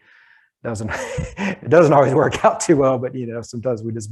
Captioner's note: chuckles